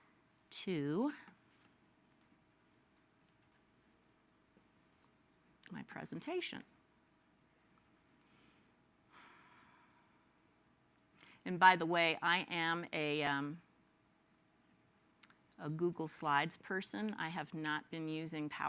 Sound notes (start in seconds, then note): 6.6 silence